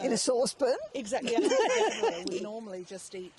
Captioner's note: laughing